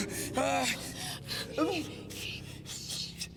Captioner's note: Robert moaning and panting